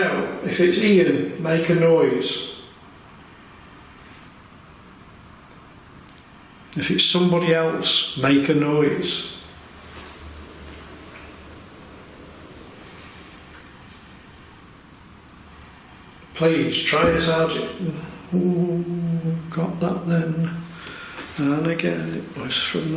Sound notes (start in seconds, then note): 17.0 thud